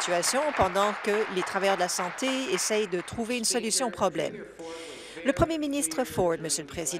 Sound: applause

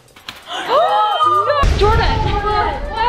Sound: gasps

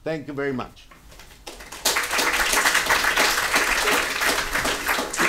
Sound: applause

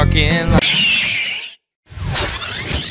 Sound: wheels screeching; video rewinding

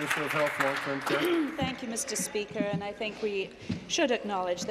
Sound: applause

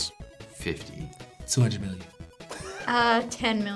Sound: React laughs

